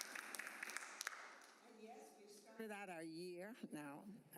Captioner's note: applause